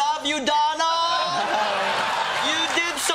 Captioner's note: laughter